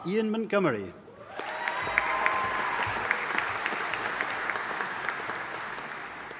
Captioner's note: audience applauding and cheering